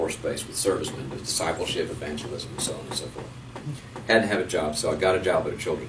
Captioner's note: none